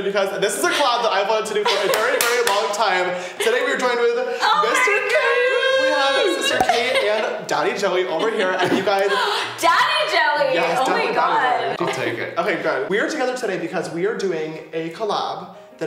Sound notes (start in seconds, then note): 9.0 gasps